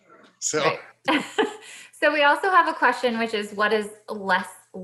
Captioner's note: laughs